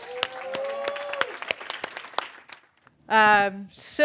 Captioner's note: cheers; applause